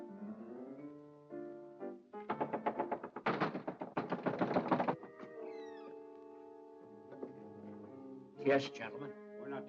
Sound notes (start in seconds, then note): 2.2 erratic knocking; 5.1 door creaks open